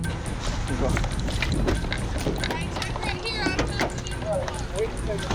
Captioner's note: indistinct chatter; suspenseful music